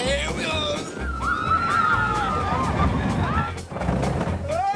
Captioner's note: screams